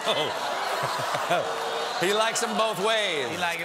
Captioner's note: audience reacts